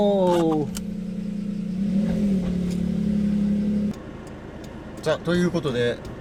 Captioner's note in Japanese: エンジン音